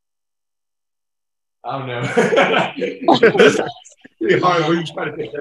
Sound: both laughing

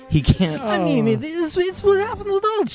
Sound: laughing

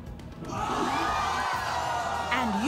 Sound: audience gasping

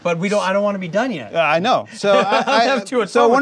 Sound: laughs

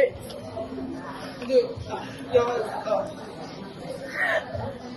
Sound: exasperated noises

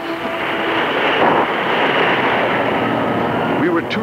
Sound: waves crashing

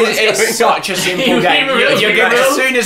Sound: slurs

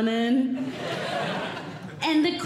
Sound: audience Laughing

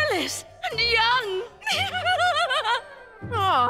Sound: laughing

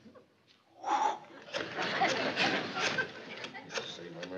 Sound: exhaling

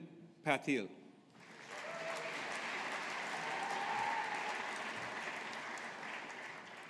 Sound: audience applauding

